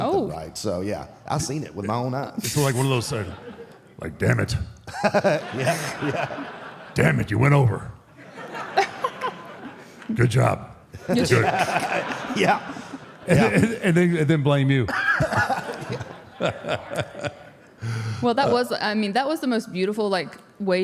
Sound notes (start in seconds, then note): 10.9 group laughs; 14.8 audience laughs